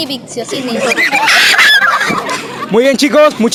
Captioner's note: laughs